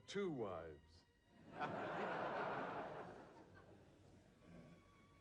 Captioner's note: audience laughs